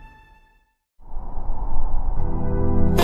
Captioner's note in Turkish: Rüzgar Sesi